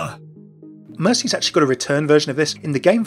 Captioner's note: voiceover